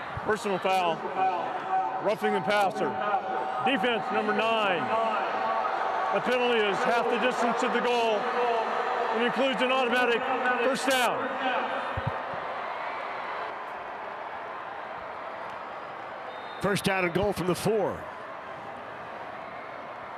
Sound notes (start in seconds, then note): 0.0 referee blows whistle; 3.2 fans cheer